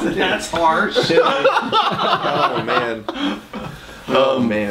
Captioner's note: laughing